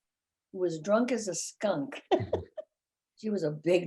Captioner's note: laughing